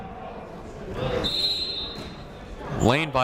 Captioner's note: whistle blows